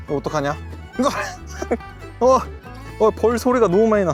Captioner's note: all kinds of freaking out